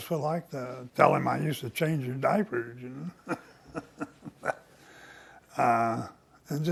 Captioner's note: laughs